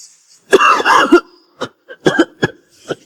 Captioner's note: cough, cough